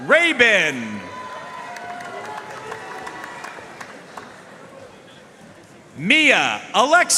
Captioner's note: audience cheering and applauding